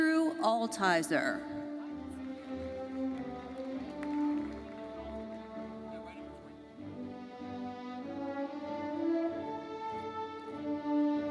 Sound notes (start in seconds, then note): 2.2 audience applauding; 5.3 orchestral music continues